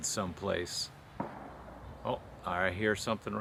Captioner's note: distant gun shots